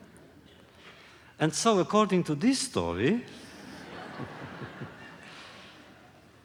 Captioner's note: laughter; laughter